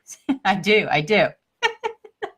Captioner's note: laughs